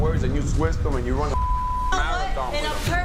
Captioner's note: beep